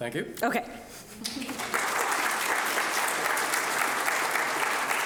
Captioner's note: audience applauding